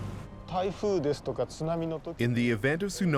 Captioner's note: speaking Japanese